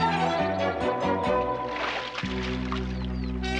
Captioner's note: water splashing